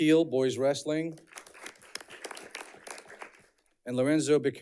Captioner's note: audience clapping